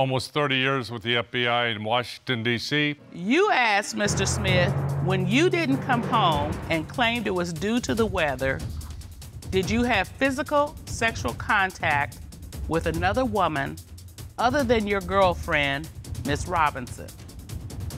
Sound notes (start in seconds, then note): none